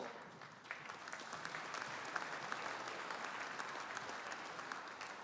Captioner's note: audience applauding